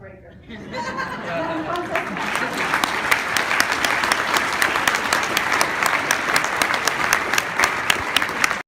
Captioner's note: applause